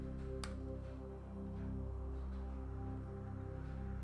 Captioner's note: mouse clicking